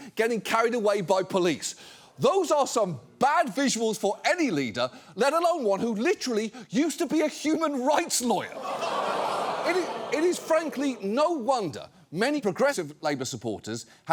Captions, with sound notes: getting carried away by police. Those are some bad visuals for any leader, let alone one who literally used to be a human rights lawyer. (AUDIENCE GROANS) It is frankly no wonder many progressive Labour supporters